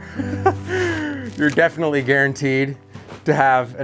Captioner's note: laughing